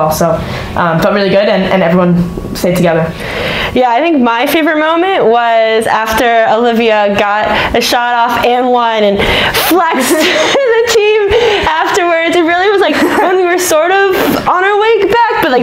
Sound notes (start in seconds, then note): 9.6 laughs